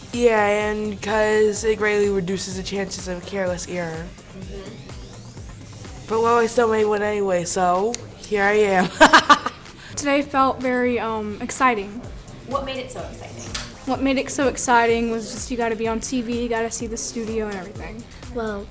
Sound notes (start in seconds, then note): 8.8 laughs